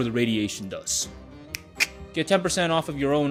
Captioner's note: fingers snap